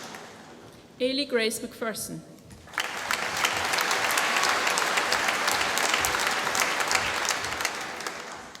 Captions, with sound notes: Eilidh Grace MacPherson. (APPLAUSE)